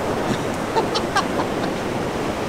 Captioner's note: laughs